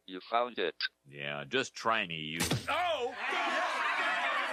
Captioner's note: crowd cheering; groaning